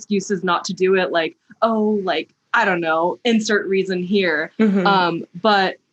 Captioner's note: mhmm